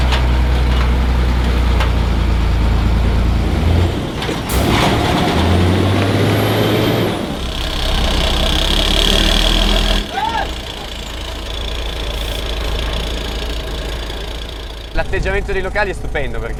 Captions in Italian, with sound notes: (motore che sale di giri) (urlo in sottofondo) L'atteggiamento dei locali è stupendo